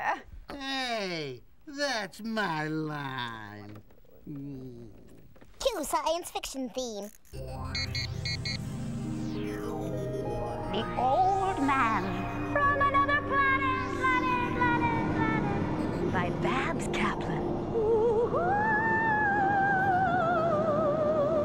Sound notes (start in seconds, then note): 13.3 echoing; 17.5 eerie singing